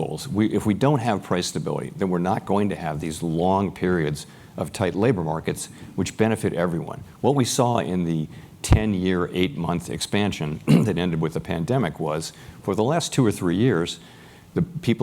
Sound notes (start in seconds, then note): 10.6 cough